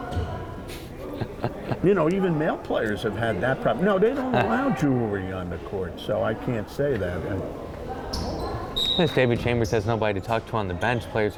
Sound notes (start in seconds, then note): 1.0 chuckling